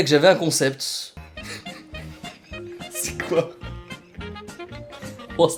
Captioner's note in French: rire de qu'on entend pas